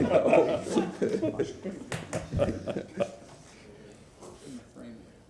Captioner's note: laughter